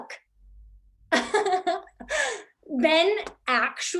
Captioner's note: laughing